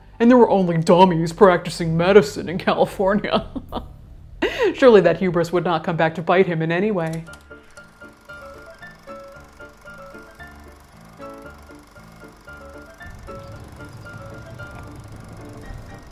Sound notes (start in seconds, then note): 3.2 laughs; 7.2 projector whirring; 7.2 bouncy music